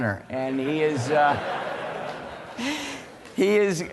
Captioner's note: laughter